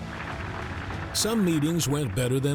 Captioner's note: audience applauding